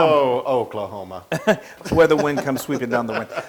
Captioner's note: laugh